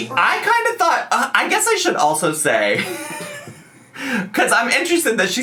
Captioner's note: laughs